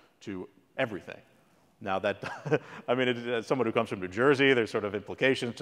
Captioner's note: laugh